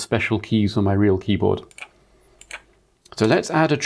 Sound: blank Audio

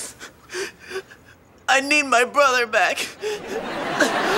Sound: imitating crying

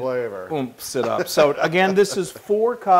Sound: laugh

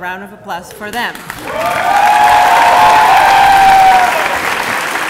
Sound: applause

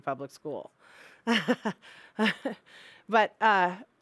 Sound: laughing

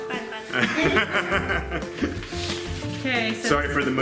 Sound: laughter

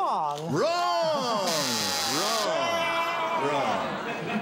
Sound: buzzer sounds

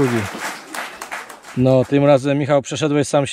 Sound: applause

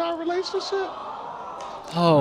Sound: crowd awws

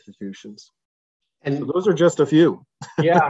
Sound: laughs

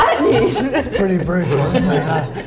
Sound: laughs

